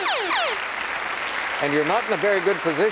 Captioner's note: applause